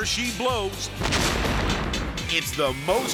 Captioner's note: dynamite explodes